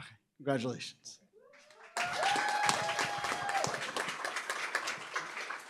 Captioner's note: applause, cheering